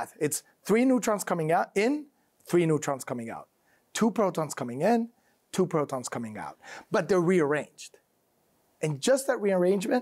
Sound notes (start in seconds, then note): none